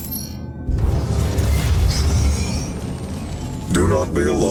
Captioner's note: machine rumbling